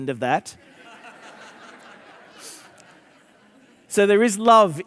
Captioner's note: audience laughing